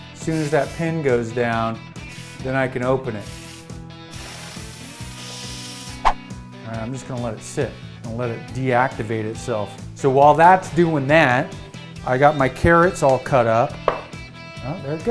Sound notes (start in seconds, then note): 4.1 sizzling